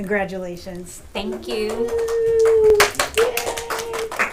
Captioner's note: clappin